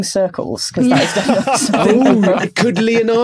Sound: group laughing

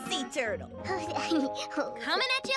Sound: giggles

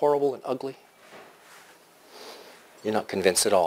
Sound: pause

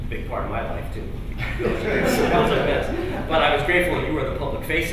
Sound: laughter

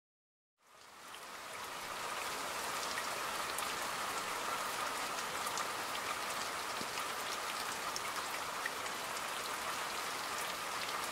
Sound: rain

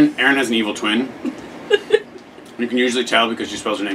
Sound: laughing

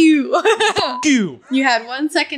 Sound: beep

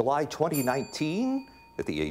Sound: bell ringing

